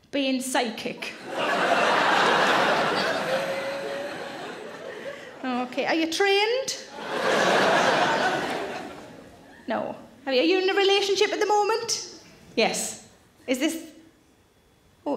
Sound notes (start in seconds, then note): 1.2 audience laughs; 6.9 audience laughs